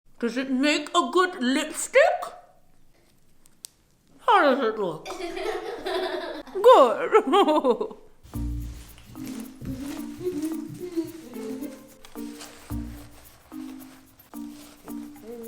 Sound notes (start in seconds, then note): 5.1 laughing; 8.4 light music